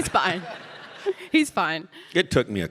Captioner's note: audience laughing